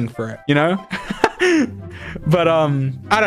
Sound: laughs

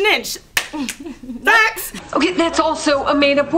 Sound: snaps

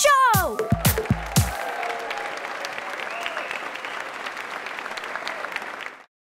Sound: A crowd claps and cheers

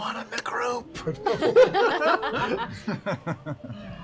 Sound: laughter

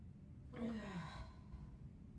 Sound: deep sigh

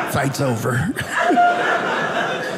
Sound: audience laughing

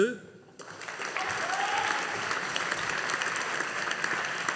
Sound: audience applauding

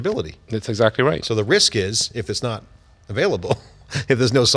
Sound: laughs

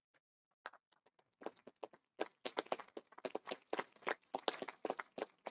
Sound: audience applauding

